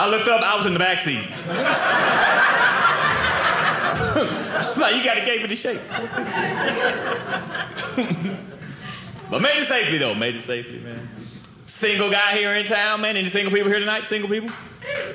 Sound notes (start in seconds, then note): 1.3 audience laughing